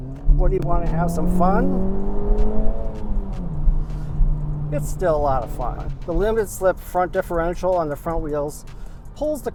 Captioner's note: engine rev sounds